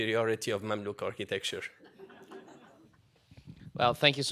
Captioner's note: laughter